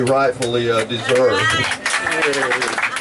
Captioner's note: clapping!